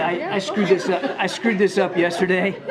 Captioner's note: laughter